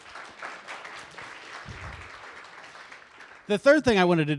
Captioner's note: audience applauds